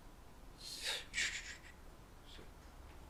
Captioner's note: grunts